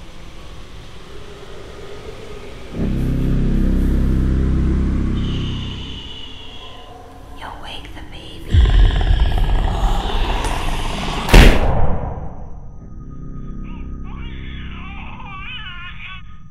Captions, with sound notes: [Lights buzz as they flicker] Distant voice whispers "Shhhh... You'll wake the baby." [Monstrous roar] [Baby crying over monitor]